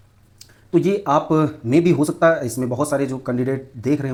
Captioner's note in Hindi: नाक से की जाने वाली आवाज़